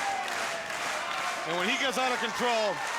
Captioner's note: audience applauding